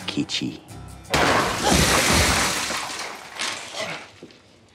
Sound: glass shattering

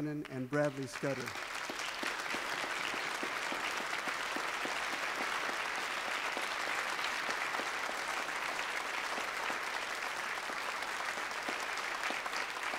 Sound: applause

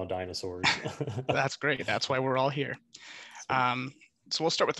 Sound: laughs

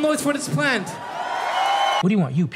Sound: cheering

